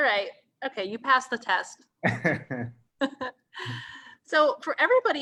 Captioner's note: both laughing